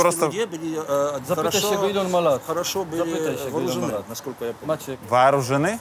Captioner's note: side cap speaks in Polish